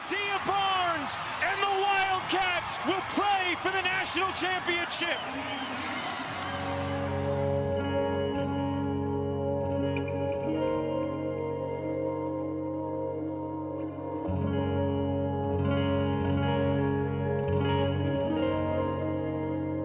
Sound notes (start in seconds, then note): 5.2 crowd cheering; 6.8 uplifting music